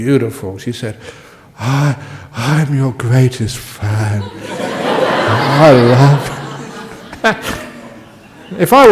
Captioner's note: laughter from the audience